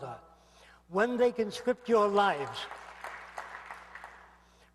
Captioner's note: aplausos